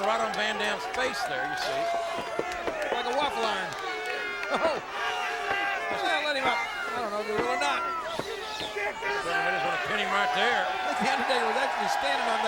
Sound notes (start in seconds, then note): 4.1 laughs